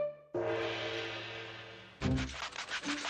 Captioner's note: gonging